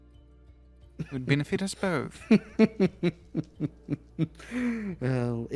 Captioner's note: slow Laughter